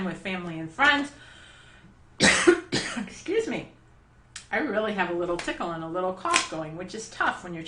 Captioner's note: cough